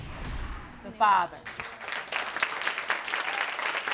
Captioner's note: audience applauding